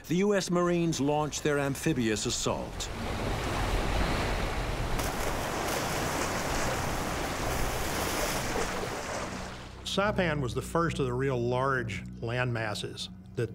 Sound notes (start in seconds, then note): 2.2 amphibious vehicle rumbling; 5.2 water splashing